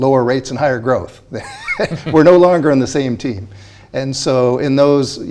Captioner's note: laughs